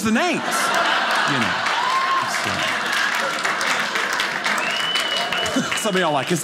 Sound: audience clapping

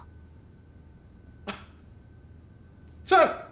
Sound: Smirnov scoffs

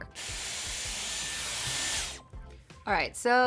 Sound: hair tool whooshes

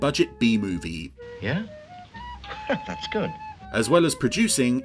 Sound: laughs

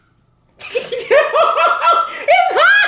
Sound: laughter

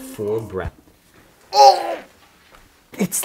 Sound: vomits

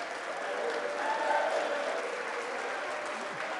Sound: applause

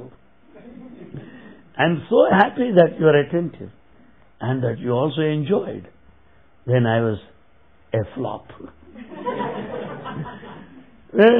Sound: laughter

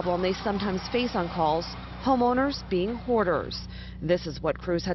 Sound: sound of sirens

